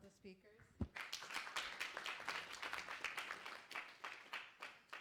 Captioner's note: applause